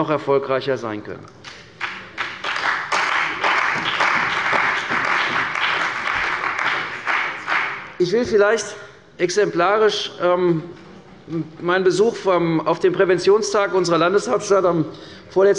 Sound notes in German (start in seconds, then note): 3.2 Beifall bei der CDU und dem BÜNDNIS 90/DIE GRÜNEN